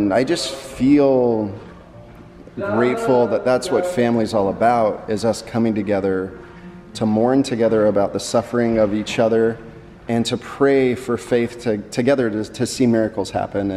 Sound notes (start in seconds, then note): none